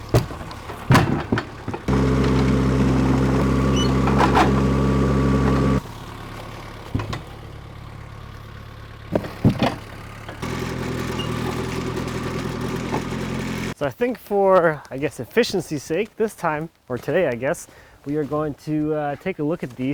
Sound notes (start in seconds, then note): 0.0 skid-steer whirring; 0.1 wood clatters; 2.3 skid-steer whirring; 10.2 wood clatters; 10.8 skid-steer whirring